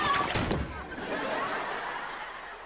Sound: laughing

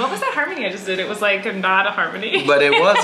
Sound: Colleen laughs

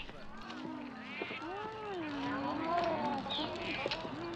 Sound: cooing

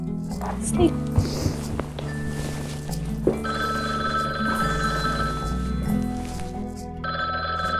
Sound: phone rings

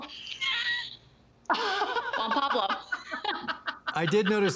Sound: both laugh

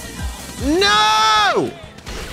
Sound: screaming

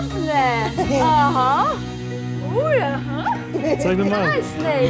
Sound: in Armenian; laughing

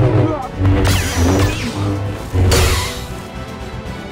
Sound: lightsaber slashes; tense music

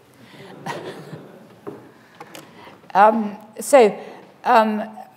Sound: audience laughing

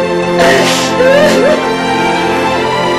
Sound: crying

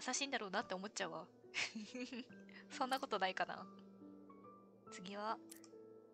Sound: laughs

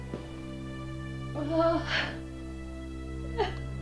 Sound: sobbing

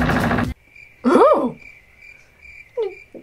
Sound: chirping

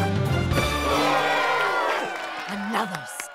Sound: crowd cheers

